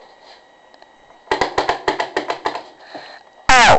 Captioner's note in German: Klopfen an der Tür